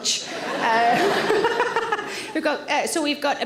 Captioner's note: all laugh